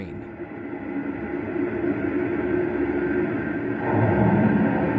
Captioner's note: rumbling waves